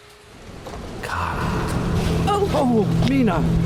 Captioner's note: Mena hollers